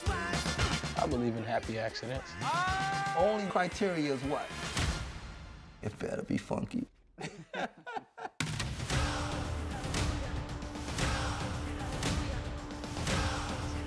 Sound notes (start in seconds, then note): 2.4 screams; 7.1 both laugh